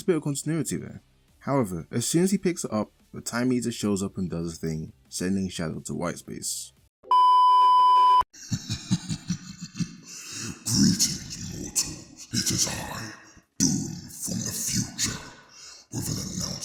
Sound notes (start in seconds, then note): 8.4 laughs